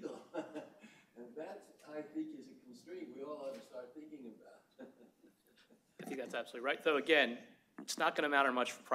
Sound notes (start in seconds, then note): 4.6 laughs